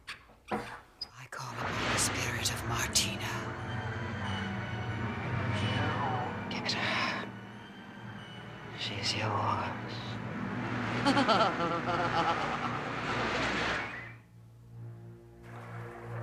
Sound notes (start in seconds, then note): 10.3 tawa sinis